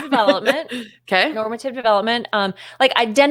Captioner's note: laughs